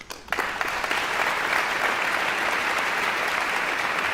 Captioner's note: audience applauds